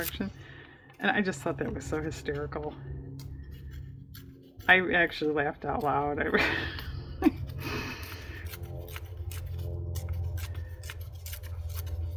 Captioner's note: laughs